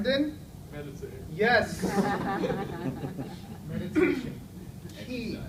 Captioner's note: audience laughs